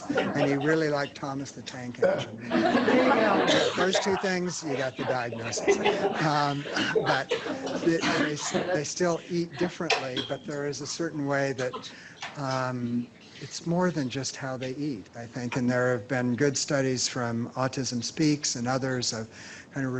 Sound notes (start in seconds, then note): 2.5 laughter